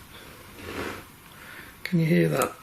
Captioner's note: nails raking over seat fabric